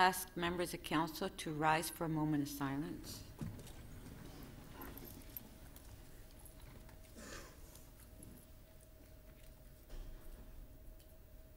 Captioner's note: moment of Silence